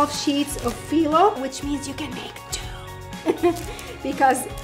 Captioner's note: giggles